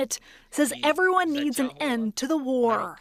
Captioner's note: speaking Alternate Language